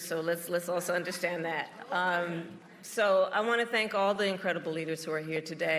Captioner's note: applause